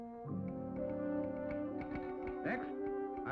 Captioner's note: telegraph clicking